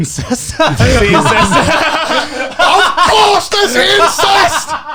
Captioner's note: all laughing